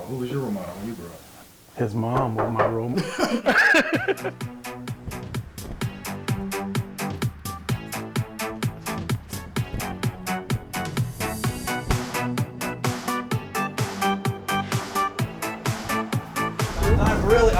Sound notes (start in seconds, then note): 2.2 door knock; 2.2 laughing